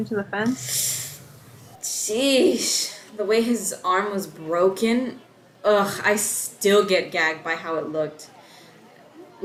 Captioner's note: winces